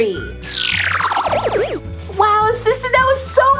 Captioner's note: squealing sound